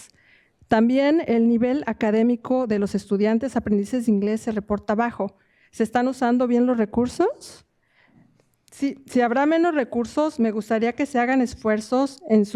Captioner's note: speaking in spanish